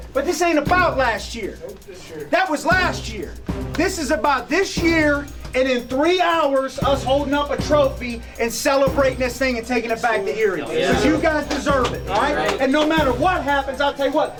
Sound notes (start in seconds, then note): 10.7 players say yeah in unison